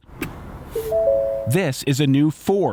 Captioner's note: car chiming